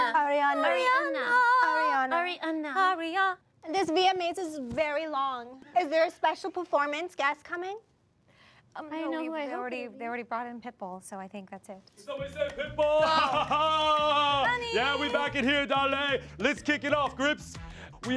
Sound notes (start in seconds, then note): 12.4 chuckles